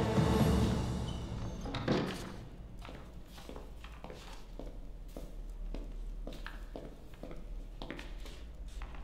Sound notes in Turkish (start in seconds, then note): 1.0 Kapı açılma sesi; 3.1 Ayak sesi